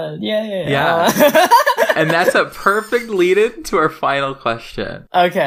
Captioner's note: laughs